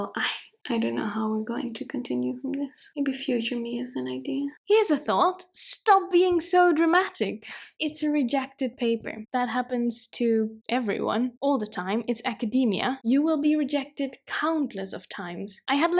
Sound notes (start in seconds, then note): none